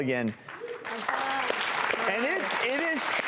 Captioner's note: clapping